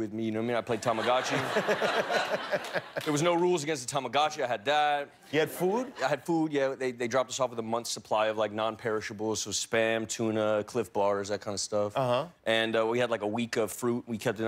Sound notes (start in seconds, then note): 4.2 laughter